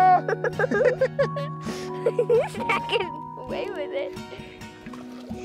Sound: giggling

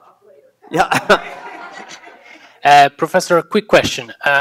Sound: laughs

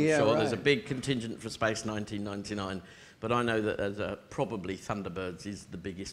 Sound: none

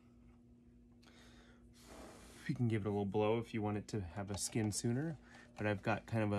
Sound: blowing sound

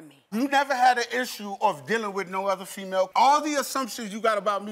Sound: none

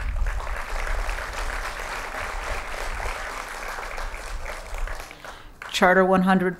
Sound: applause

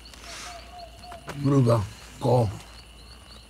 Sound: V'rugga speaks gibberish

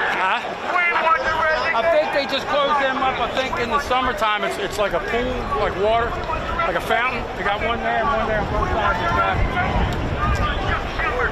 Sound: crowd noise

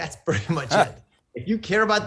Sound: laughs

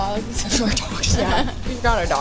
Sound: laughs

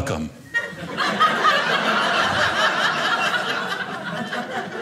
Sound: audience laughing

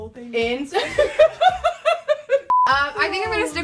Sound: laughter

